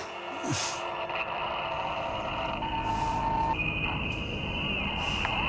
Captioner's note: static on monitor